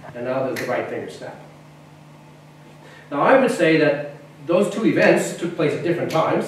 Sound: snaps right fingers

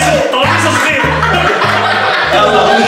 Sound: laughing

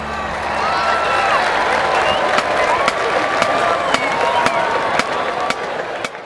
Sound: crowd cheers

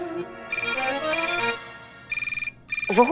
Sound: phone ringing

